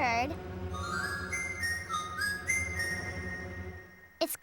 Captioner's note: whistling